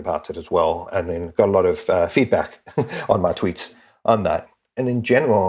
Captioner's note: laugh